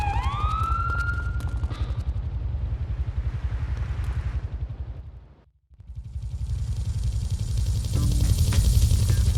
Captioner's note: plane engine roaring